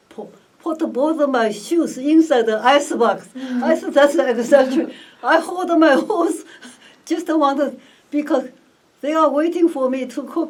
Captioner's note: all laugh